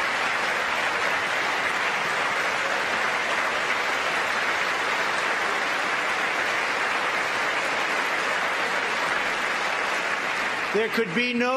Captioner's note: applause